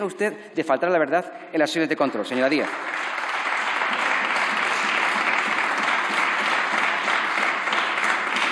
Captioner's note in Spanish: Aplausos